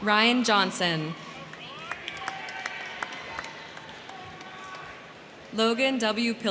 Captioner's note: crowd cheering; crowd clapping